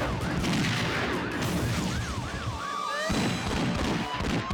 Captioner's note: gun firing